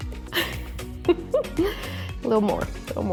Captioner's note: laughs